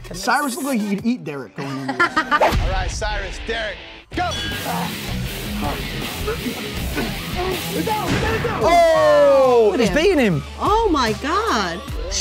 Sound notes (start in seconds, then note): 4.4 fighters grunting